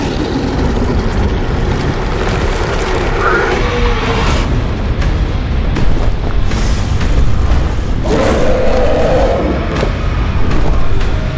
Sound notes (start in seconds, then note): 3.0 dragon roars; 5.7 dramatic music; 8.0 dragon roars